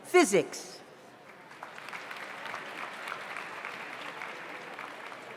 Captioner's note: audience applauds